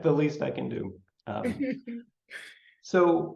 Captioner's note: chuckles